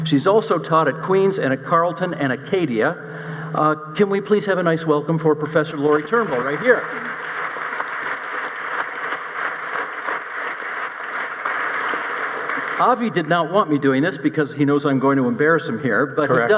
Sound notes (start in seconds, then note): 7.3 audience applauding